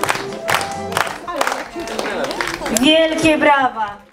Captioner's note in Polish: Aplauz